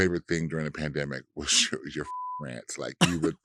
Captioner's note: beeps